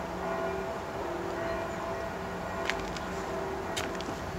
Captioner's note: bells tolling